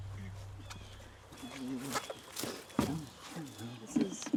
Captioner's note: Donald muttering